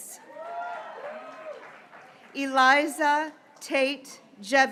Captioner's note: graduates cheering